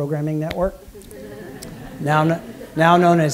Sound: laughter

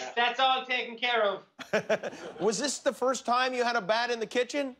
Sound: laughter

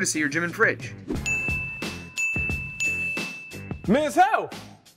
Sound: soft dinging tones

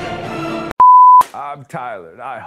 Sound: beep

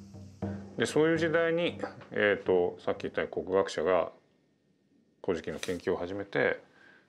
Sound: speaking in foreign language

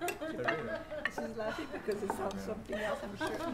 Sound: laughing, talking indistinctly

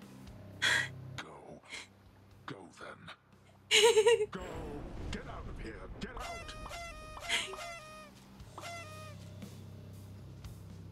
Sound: shocked gasping and chuckling while confetti pops in her face

